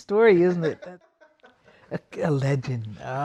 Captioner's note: cameraman laughing